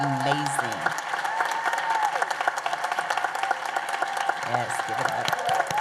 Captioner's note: applause and cheers